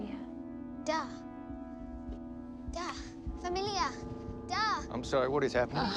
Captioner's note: Jane speaking in foreign language; Mya speaking in foreign language